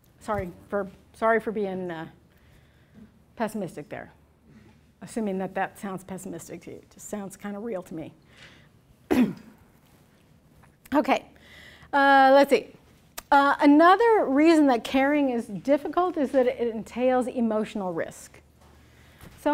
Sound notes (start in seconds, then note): 9.1 clears throat